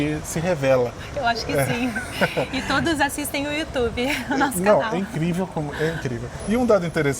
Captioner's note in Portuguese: risadas